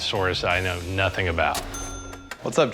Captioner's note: cash register ring